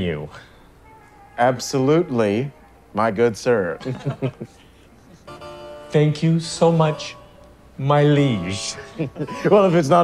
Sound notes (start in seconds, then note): 3.8 all chuckle; 4.6 exaggerated pompous accent